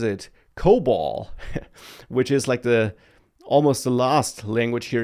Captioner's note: laughs